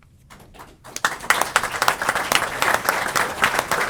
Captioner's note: applause